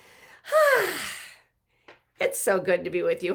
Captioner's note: exhales joyfully